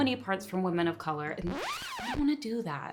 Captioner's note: record scratches